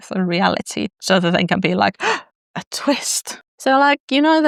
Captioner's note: gasp